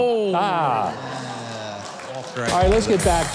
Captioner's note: audience laughs